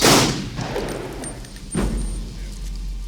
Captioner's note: gunshot